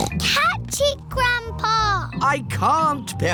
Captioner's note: snorts